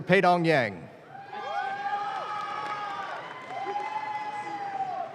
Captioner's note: audience claps